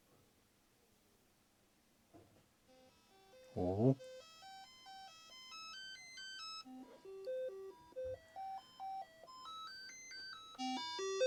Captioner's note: beeping